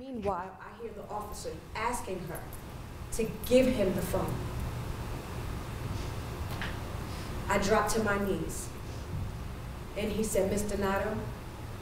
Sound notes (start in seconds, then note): none